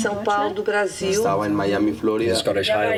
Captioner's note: spanish